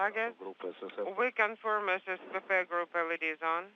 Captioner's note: talking in foreign language